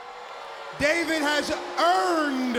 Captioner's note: crowd cheering